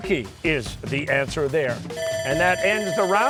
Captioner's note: bell ringing